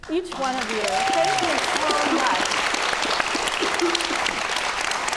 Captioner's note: audience clapping